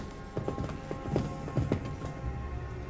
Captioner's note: sound of footsteps